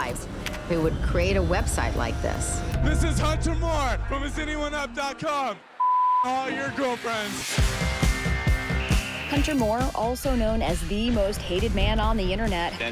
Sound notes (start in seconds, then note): 6.4 rock music playing; 7.4 modem connecting